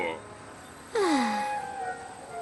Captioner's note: relieved sigh